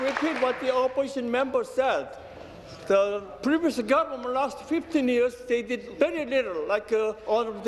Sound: applause

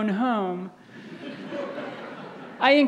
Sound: audience laughs

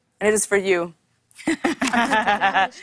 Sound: laughter

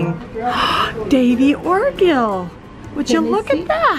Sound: gasps

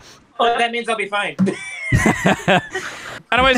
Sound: laughter

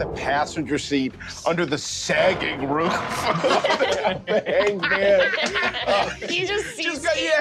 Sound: creaking metal

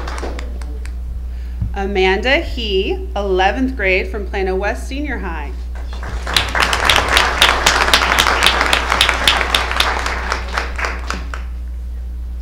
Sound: applause

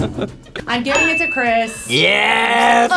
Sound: bell dinging

